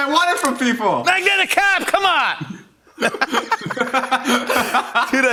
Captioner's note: laughter